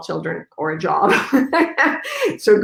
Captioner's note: laughs